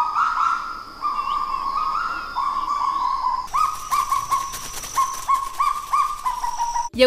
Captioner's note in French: Son du cagou